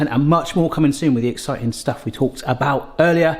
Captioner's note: none